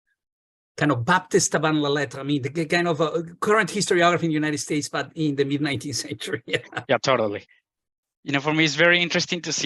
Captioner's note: laughs